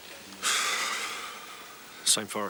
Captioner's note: Dave sighs